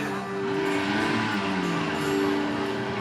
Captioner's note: motor revving